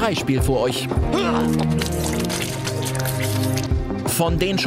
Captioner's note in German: Würgegeräusche